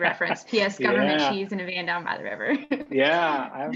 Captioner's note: laughing